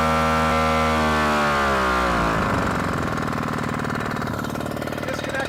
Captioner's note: sound of pump slows down